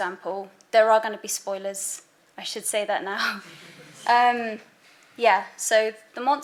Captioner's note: background laughter